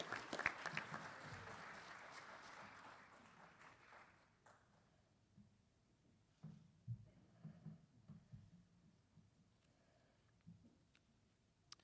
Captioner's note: applause